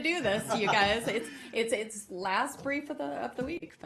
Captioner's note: laughter